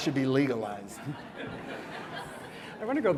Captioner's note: laughter